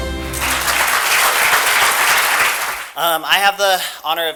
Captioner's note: applause